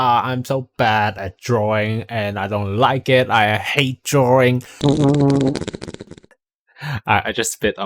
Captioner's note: fart noise